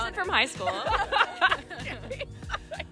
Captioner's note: laughter